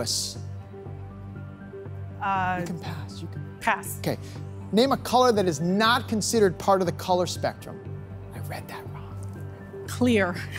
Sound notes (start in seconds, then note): 7.7 whispers